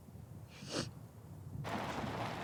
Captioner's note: sniffles